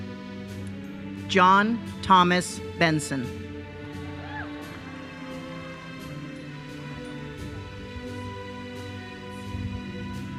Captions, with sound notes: John Thomas Benson. (attendees cheering) (uplifting music continues)